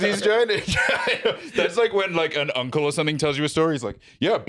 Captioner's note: laughs